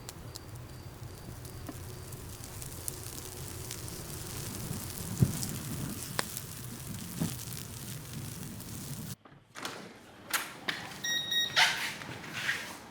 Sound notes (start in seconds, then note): 0.0 fire crackling; 11.0 door chime